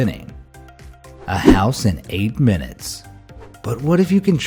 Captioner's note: graphic whooshing